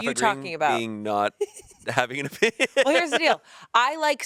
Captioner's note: laughs